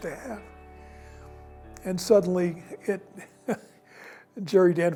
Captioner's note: chuckles